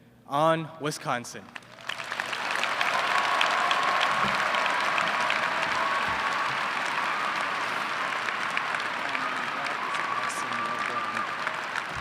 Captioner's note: applause